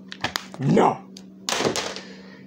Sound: claters

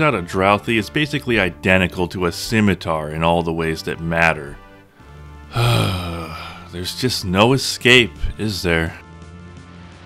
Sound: sigh

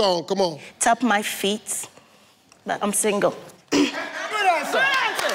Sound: coughs

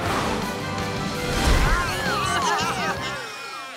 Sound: baaing

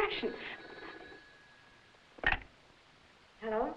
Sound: phone ringing

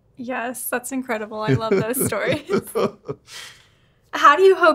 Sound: laughs

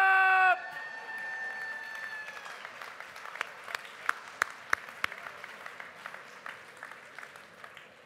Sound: applause

